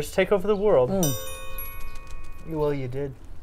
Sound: tink Bells

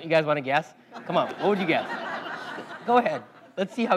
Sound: laugh

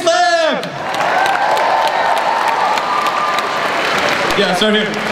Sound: crowd cheers

